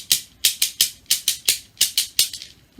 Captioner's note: rhythmic tapping